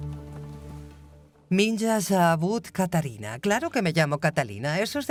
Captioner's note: speaking Russian